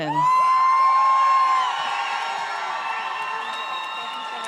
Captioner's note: audience cheers